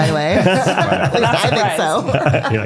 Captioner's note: laughing